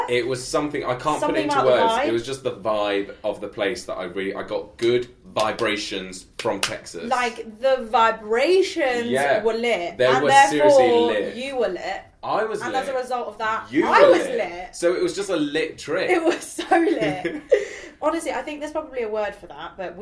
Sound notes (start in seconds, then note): 6.4 clapping; 16.8 laughing